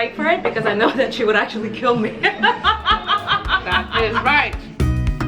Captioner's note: laughs